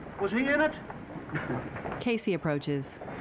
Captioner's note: men chuckling